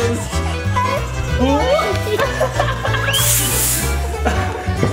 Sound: laughs

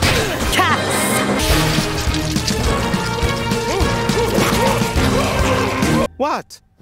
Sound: screaming; bugs chittering

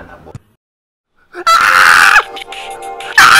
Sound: screaming

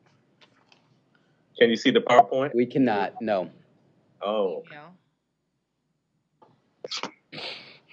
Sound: sighs

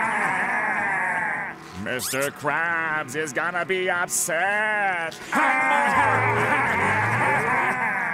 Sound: laughing; laughing

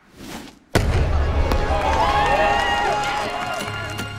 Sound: crowd cheers

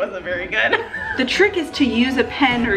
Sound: laughing

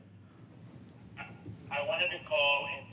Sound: on phone

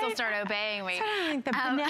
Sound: laughter

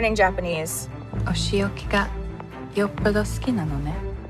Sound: speaking in japanese

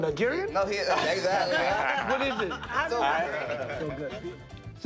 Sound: laughter

